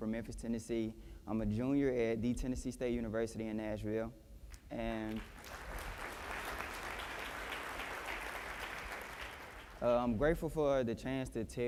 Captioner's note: applause